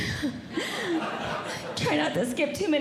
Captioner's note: audience Laughing